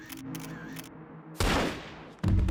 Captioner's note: gunshot firing; suspenseful music